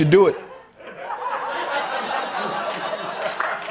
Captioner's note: laughter; applause